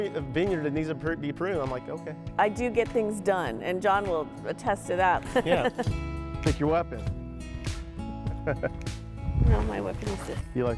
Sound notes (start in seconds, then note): 5.2 laughs; 7.3 relaxed guitar music; 8.4 laughing